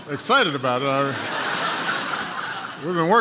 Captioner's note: laughter